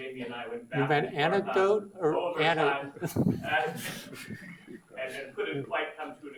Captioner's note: laughs